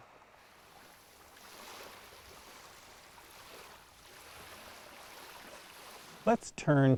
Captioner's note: waves crashing